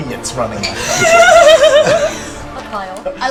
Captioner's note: laughter